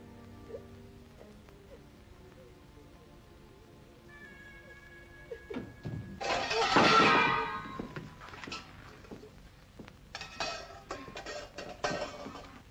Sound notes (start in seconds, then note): 0.0 soft ominous music; 0.2 sobs; 5.4 door closes; 5.8 dishes clatter; 10.1 dishes clank